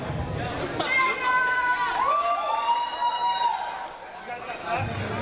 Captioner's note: audience cheers